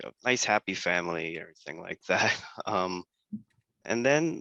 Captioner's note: laugh